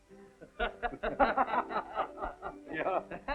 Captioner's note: laughing